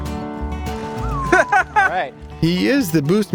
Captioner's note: laughs